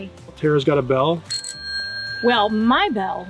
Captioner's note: bell rings